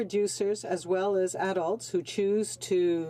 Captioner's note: speaking French